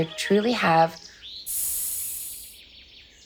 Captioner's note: air hissing sound